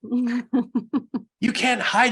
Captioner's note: laughs